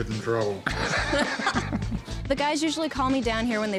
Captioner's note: all laughing